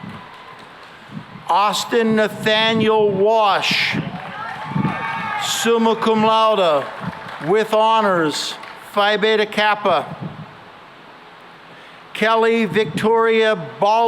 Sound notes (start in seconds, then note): 3.9 cheering and applause